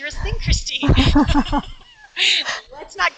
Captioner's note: laughs